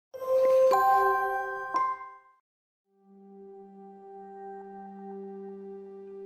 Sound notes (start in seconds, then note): 0.2 chiming; 3.0 enigmatic music